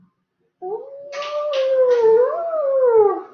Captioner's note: Wolfie howls